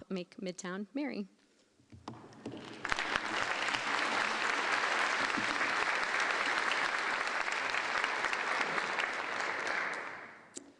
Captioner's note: applause